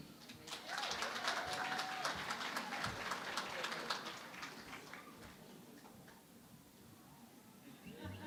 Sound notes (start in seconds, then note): 0.2 applause